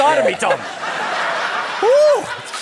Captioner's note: laughter